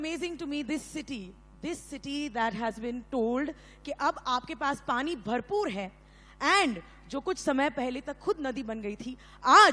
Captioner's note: speaks in Hindi - not transcribed